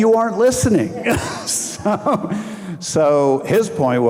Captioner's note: audience laughing